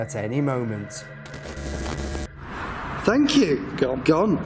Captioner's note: static